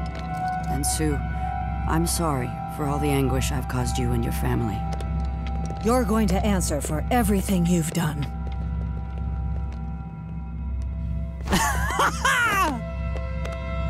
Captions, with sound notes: And Su, I'm sorry for all the anguish I've caused you and your family. You're going to answer for everything you've done. [laughing]